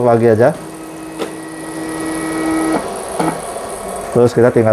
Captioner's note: printer machine noise